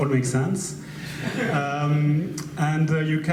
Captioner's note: audience laughs